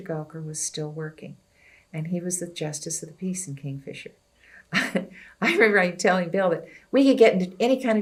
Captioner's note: laughs